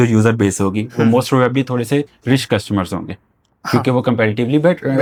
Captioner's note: sound of clearing throat